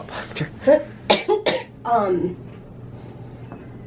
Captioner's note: coughs